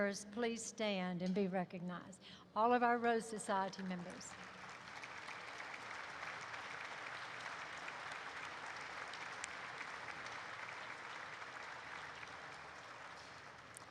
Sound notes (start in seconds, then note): 3.5 applause erupts